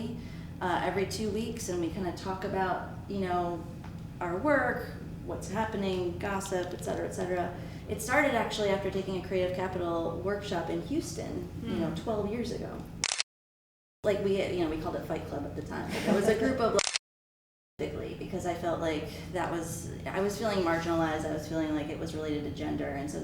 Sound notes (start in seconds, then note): 16.8 camera clicks